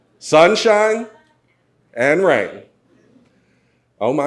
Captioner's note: none